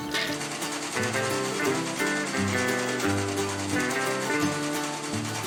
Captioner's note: mechanical shaking